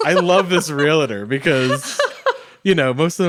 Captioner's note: laughs